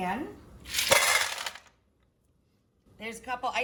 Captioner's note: clatters